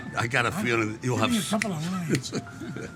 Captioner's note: Sylvester snapping; Sylvester laughing